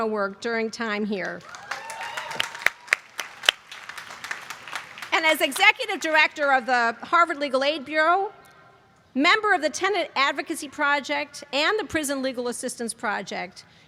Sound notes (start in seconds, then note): 1.2 applause